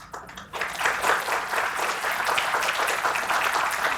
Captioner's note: applause